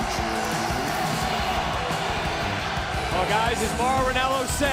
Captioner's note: crowd cheering